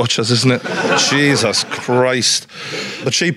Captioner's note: audience laughs